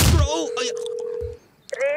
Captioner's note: phone ringing